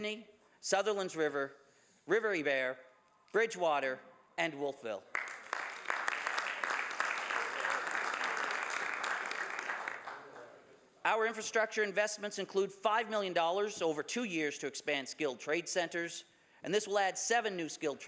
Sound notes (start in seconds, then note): 10.8 some Applause